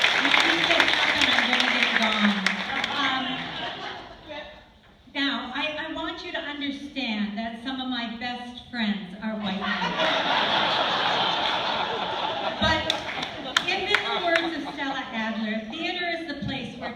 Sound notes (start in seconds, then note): 2.5 laughter; 9.4 laughter